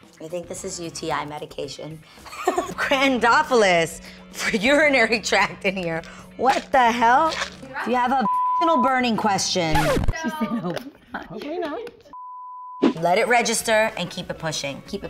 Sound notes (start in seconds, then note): 9.7 record scratches